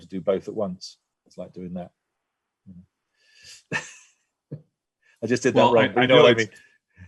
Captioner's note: laugh